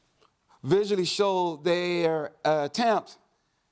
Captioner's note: none